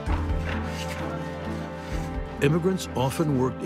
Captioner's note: sounds of construction